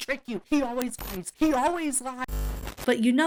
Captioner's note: audio glitches